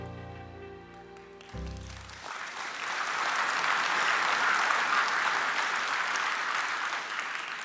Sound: applause

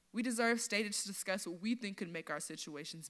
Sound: none

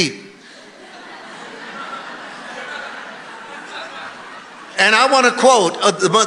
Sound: congregation laughing

